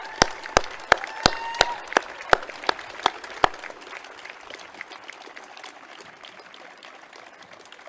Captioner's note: clapping and cheering